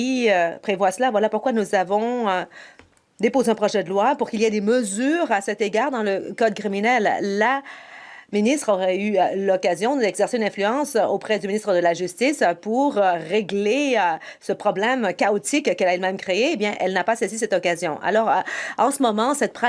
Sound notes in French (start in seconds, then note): 0.0 voix de l'interprète